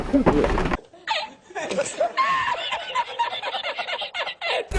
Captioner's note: laughs comically